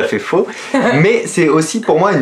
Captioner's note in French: rire